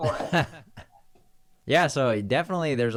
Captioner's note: laughing